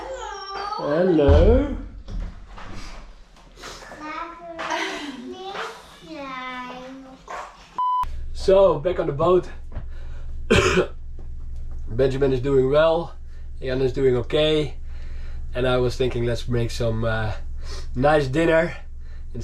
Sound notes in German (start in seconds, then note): 4.2 spricht in einer fremden Sprache; 7.8 Piep; 10.4 hustet